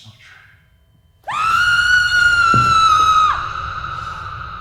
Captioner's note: screams